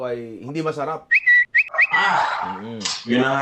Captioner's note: Twitter sounds